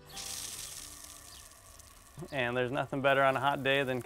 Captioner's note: water showering